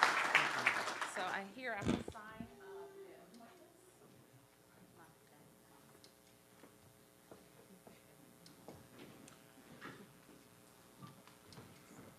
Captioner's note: applause